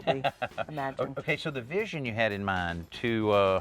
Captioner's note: laughs